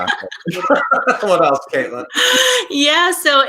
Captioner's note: laughs